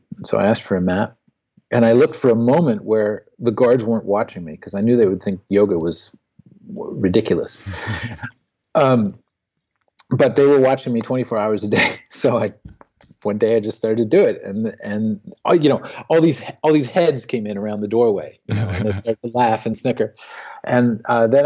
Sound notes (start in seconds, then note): 11.7 laughs; 18.5 laughs